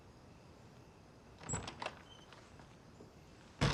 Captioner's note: door Opens